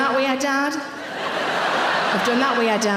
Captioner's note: audience laughing